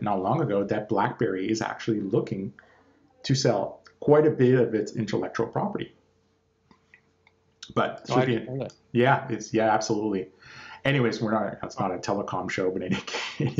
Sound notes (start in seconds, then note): 7.7 murmurs